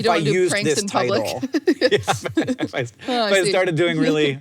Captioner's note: both laugh